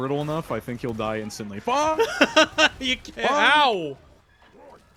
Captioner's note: laughter